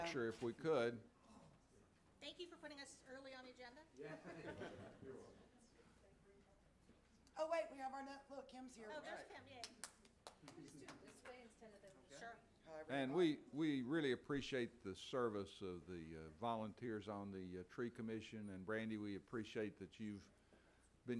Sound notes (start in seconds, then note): 4.0 laughs; 9.6 clapping